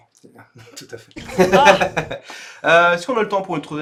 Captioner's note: laughs some more